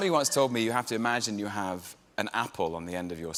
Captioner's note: laughter